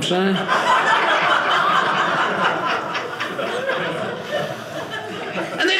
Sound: audience laughing

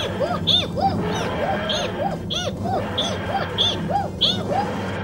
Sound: tardis whirling sound

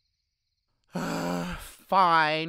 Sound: Quincy dramatically sighs

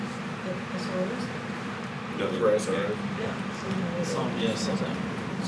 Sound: board members chattering

